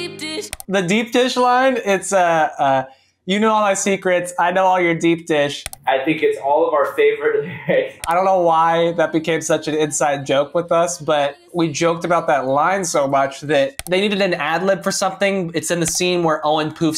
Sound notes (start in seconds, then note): 7.2 chuckles